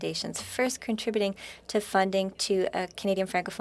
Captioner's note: speaking French